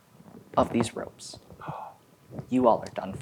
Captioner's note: gasps